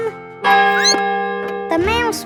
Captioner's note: squeaks; clock chimes